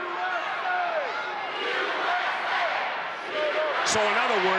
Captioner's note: crowd chants "USA"